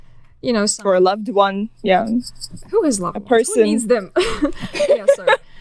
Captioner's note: laughing